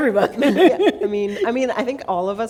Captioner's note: laughter